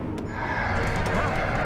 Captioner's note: growling